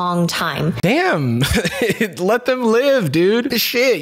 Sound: chuckles

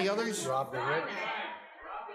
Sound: people shout

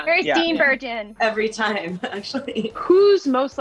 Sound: chuckling

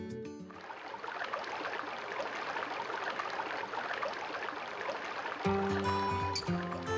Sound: water flowing; upbeat music

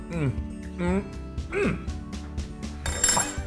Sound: laugh

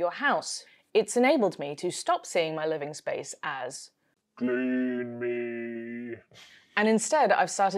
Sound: spooky voice

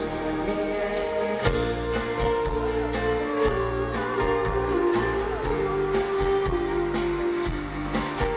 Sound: fan makes emotional noise

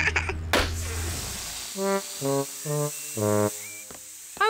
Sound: laughs; tire pops, hisses

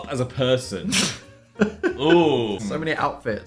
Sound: Dan laughs

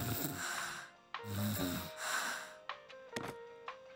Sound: snoring

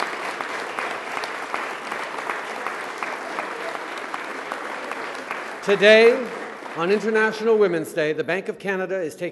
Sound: cheers and applause

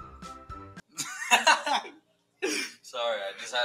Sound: laughs

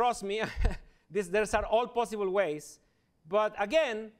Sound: chuckles

